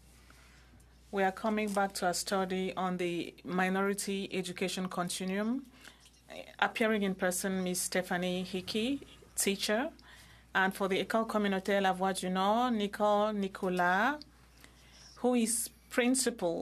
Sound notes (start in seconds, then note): 1.6 speaking French